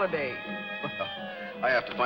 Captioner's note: laughs